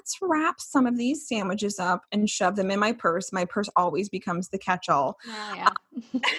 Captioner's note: laughing